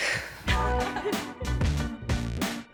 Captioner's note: upbeat music; laughs